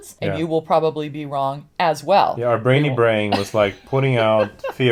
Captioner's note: laughs